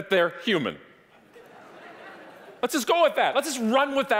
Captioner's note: audience laughing